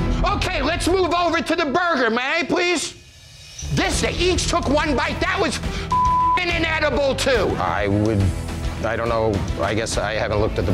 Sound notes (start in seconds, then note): 5.8 beeps